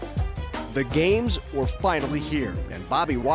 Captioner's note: upbeat music; voiceover